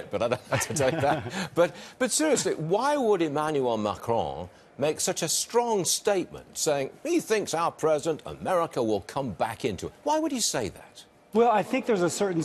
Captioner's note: laughter